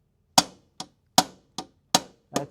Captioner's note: hammering